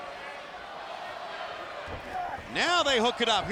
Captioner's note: audience chanting